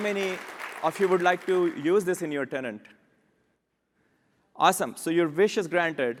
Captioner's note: applause